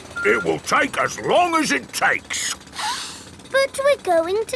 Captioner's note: sniffs